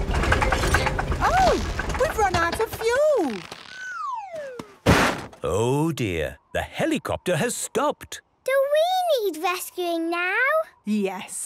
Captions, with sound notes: (helicopter engine sputtering) - Oh, We've run out of fuel! - (bangs) - Oh, dear. The helicopter has stopped. - Do we need rescuing now? - Yes.